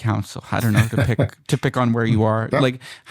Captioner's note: laughter